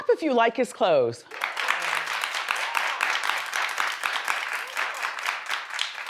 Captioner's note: audience applauds